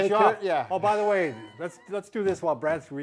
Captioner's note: laughs